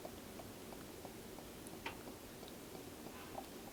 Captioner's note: none